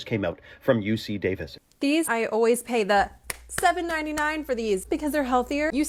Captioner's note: claps